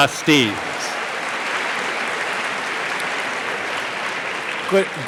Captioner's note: audience applauding